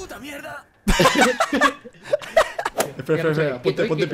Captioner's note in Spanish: risas